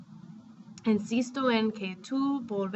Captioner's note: speaking spanish